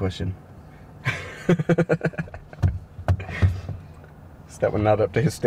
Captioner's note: Josh laughing